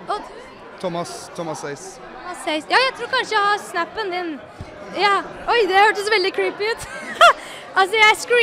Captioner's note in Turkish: køtü gülüsler